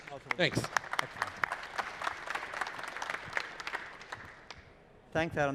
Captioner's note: applause